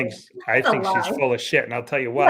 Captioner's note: laughing; beep